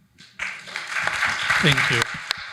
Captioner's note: audience applauding